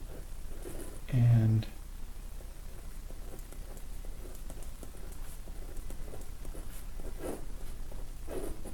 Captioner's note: writing Sounds